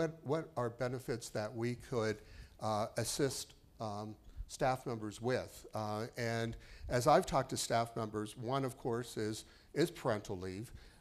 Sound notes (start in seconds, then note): none